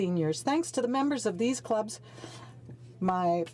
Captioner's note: speaking French